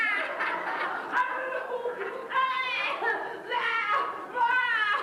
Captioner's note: shouts